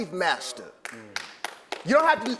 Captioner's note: applause